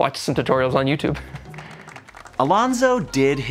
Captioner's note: light clapping